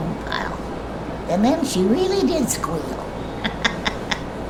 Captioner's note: laughs